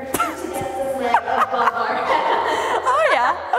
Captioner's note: laughing; all laughing